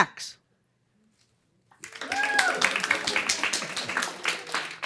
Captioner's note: some applause